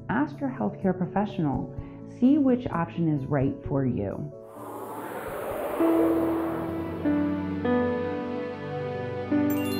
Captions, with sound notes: ask your health care professional. See which option is right for you. (logo whooshing) (gentle music)